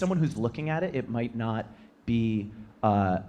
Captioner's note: none